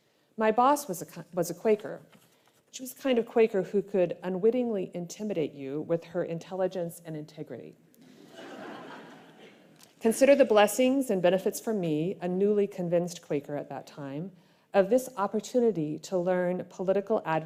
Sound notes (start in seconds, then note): 8.0 laughter